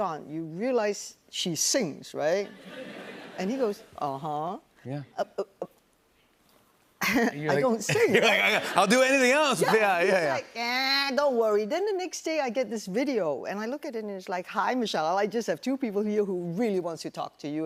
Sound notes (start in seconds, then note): 2.4 laughter; 7.9 chuckles